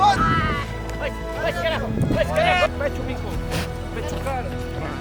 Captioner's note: farmers speaking